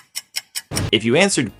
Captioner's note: ticking; boom